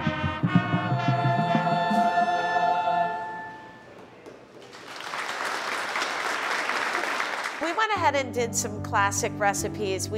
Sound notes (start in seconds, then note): 0.1 choir sings; 3.9 audience clapping